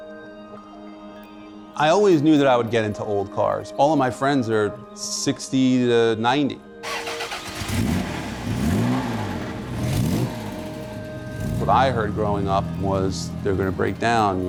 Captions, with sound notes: I always knew that I would get into old cars. All of my friends are 60 to 90. (car engine revs) What I heard growing up was they're gonna break down,